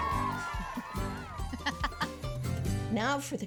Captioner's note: laughing